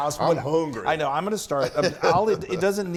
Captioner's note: laugh